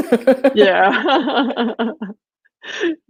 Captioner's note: laughing